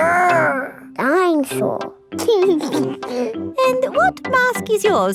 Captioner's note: giggles